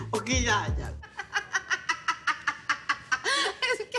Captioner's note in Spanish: Risas